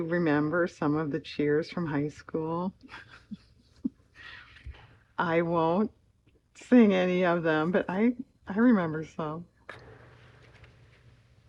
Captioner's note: laughs